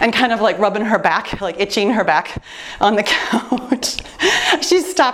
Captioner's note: laughs